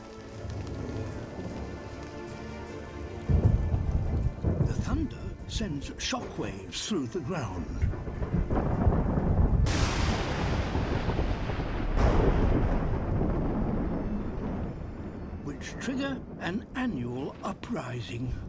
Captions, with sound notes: The thunder sends shockwaves through the ground... (THUNDERCLAP) ...which trigger an annual uprising.